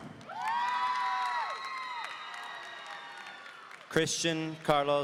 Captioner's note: audience cheering